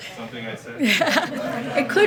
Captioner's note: laughter